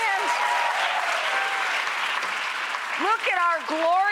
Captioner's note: audience applauds